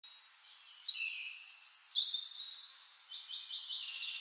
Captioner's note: birds chirping